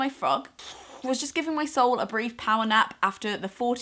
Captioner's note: exhale